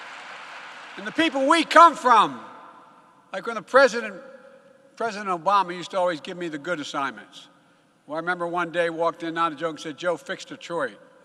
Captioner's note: applause